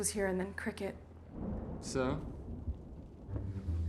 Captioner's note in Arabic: هدير الرعد; صوت المطر; موسيقى أوركسترالية مشؤومة